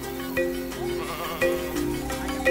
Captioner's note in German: Blöken